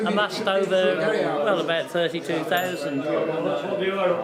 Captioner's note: ding